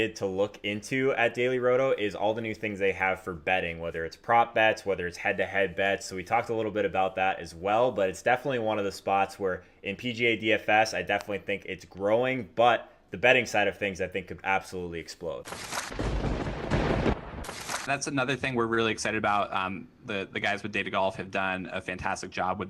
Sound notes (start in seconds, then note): 15.5 papers shuffle; 15.9 thunder booms